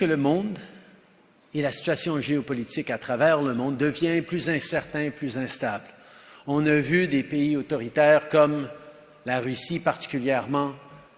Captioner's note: speaks French